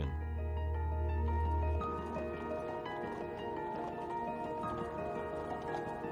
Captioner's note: somber music; hooves clopping